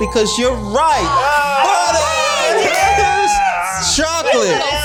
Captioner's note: all cheering